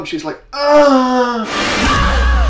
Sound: scream

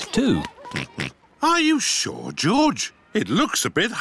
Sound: oinks

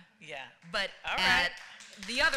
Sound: applause

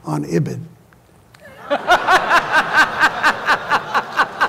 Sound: laughter

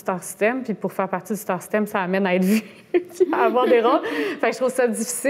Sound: laughs

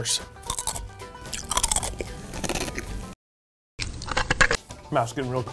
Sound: crunch sound

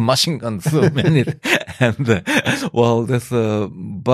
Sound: laughter

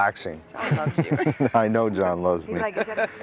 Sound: laughing

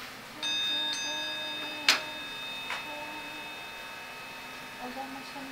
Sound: sound of ringing bell

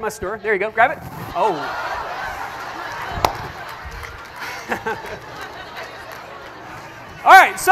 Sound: audience laughter

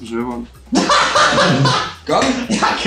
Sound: burst out laughing

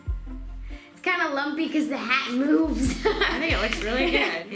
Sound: laughs

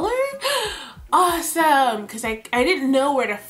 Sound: gasps

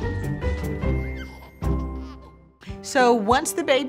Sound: baby laughing

